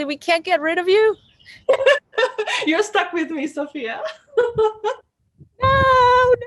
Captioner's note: laughs